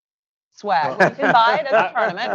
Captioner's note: laughter